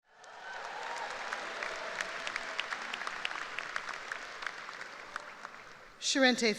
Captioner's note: applause